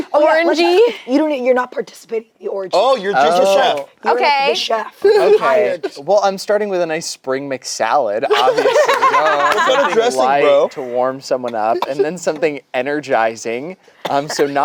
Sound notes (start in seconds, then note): 8.3 group laughs